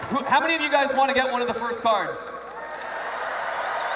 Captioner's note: cheers